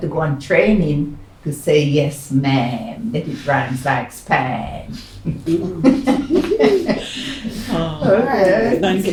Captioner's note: laughs